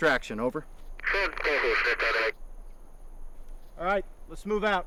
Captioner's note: radio chatter